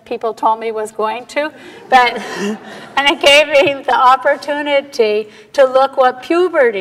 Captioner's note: laughter